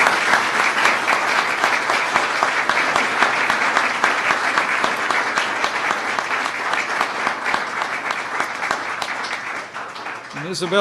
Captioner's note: applause